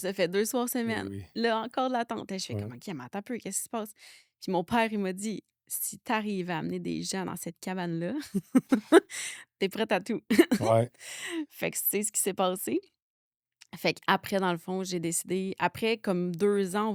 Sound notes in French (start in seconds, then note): 8.2 rires